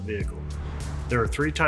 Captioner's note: slide whooshes